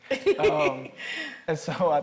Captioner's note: laughing